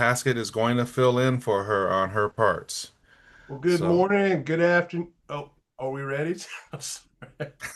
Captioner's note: light laughter